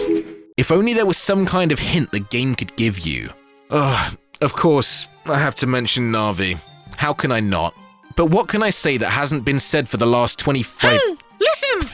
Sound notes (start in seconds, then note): 3.7 sigh